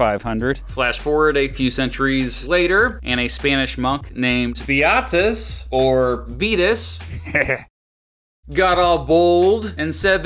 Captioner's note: heh heh